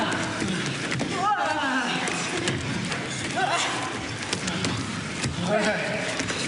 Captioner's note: exclaiming